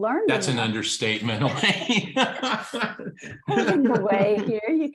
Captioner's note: laughs